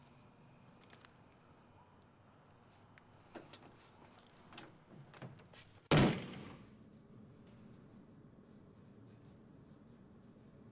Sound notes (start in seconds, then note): 5.9 door slams closed